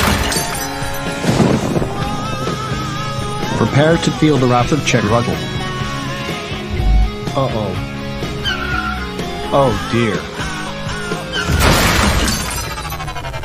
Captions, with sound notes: Prepare to feel the wrath of Chet Ruddell!!! Uh, oh! (PANICKING) Oh, dear! (CRASHES)